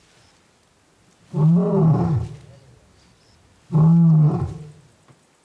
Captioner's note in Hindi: शेर की गर्जना